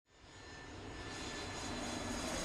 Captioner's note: flying jet